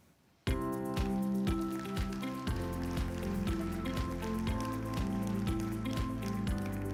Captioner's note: upbeat music; audience applauding